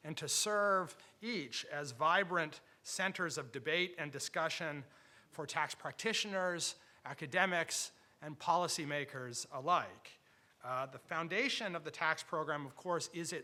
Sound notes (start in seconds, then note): none